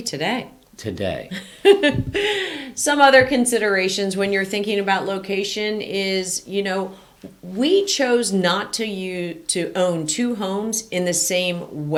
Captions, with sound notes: - Maybe today - Today - (laughs) Some other considerations when you're thinking about location is, you know, we chose not to own two homes in the same weather system,